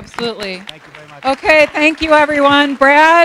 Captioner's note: applause